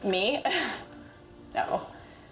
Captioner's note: laughs